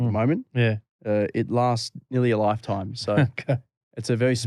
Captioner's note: laughter